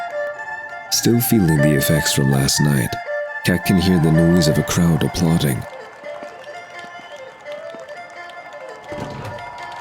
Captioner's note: applause